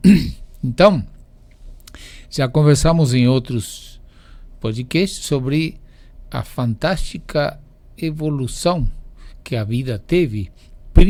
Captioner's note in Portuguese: limpando a garganta